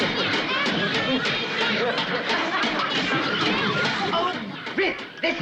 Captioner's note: watering can clanging